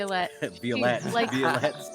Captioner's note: chuckles; Cornette laughs